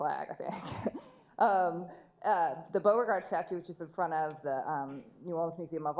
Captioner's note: laughs